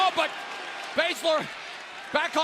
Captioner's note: fans chanting